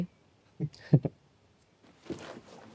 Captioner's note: chuckles